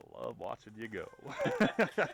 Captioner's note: laughing